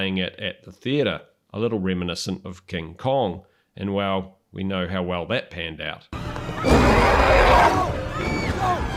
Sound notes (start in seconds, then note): 6.6 roaring